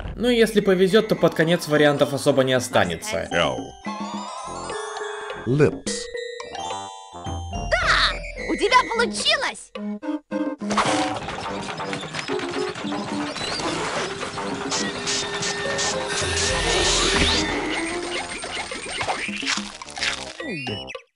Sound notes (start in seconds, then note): 10.7 machinery noises; 18.8 nom